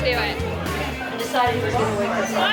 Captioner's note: chatter